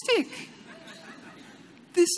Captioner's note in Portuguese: Risos